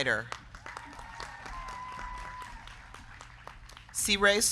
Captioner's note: crowd clapping; crowd cheering